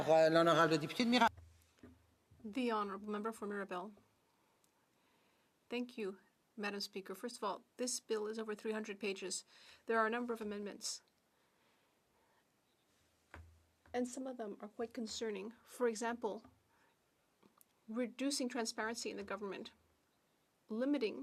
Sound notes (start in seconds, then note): 6.3 speaking French